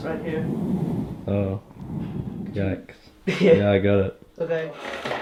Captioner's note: chuckles